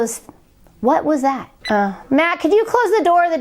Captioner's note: beep